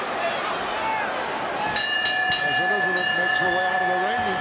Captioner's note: bell rings